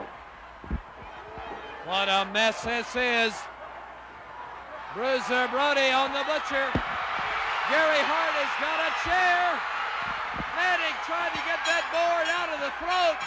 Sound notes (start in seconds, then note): 6.7 crowd cheering